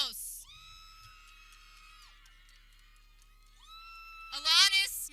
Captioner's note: people cheering